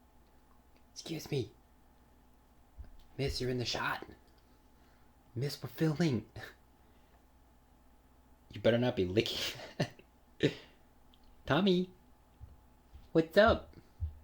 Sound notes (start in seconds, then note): 10.9 laughs